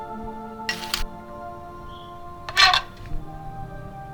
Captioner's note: bike creaks